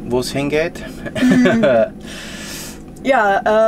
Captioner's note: laughter